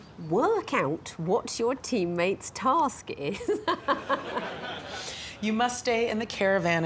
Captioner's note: laughs